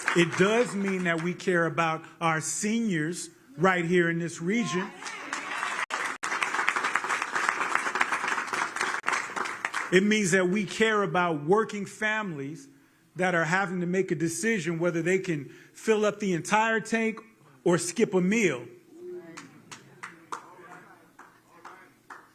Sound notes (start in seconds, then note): 4.7 applause